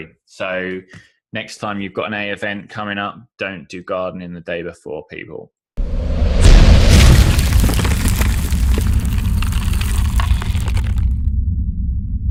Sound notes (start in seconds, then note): 5.8 whooshing; 6.4 thudding